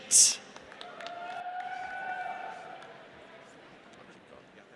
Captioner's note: audience cheers